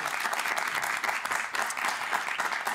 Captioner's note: applause